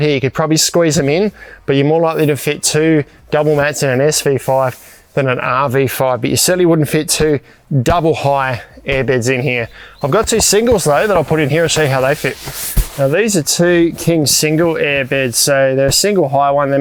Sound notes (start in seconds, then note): 8.0 hand thumping; 12.3 fabric hissing